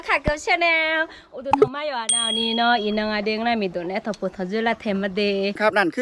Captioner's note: speaking in Akha dialect